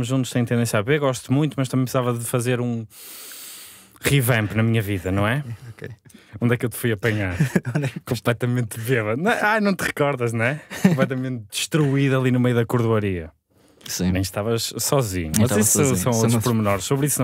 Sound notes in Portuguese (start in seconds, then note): 7.0 risos